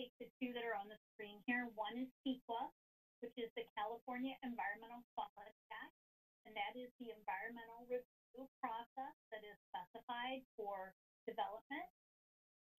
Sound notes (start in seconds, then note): none